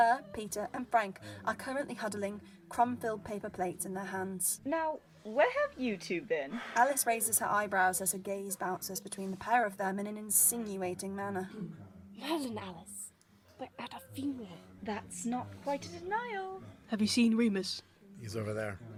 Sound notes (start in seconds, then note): none